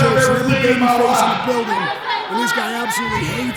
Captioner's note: people chattering